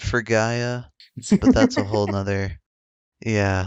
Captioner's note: laughs